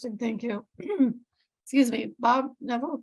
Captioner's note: coughs